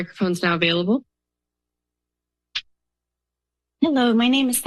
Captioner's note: silence